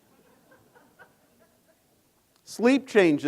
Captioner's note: audience laughing